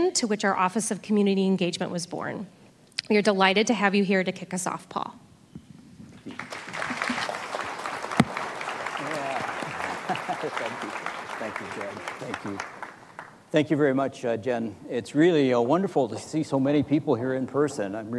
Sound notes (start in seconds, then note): 6.2 audience applauding; 8.9 laughs